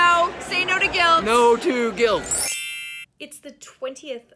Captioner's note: chiming